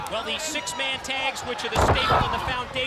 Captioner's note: body thudding